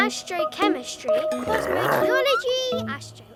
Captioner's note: Big Lizard growls